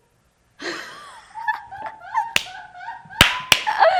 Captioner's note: laughs